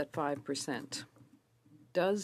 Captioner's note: speaking French